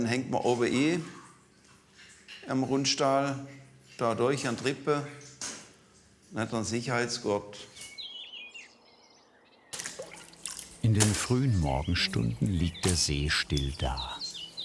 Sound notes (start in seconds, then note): 8.6 birds chirping, splashing